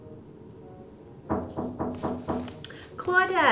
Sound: knocking

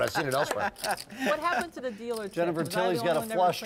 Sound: laugh

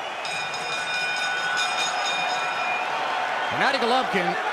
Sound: bell dinging

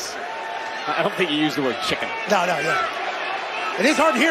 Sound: cheers and applause

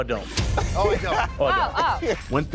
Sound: laughter

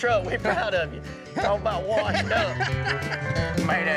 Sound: laughing

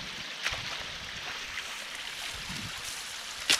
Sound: wind blowing

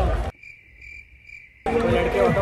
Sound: cricket noises. not that cricket

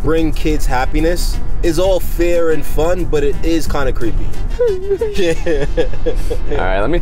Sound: laughs

